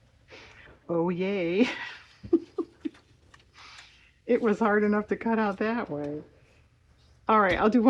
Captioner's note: laughs